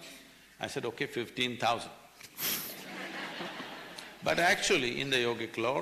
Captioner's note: laughs; laughter